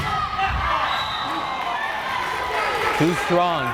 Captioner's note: whistle blares